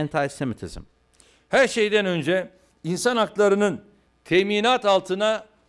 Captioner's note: non-english speech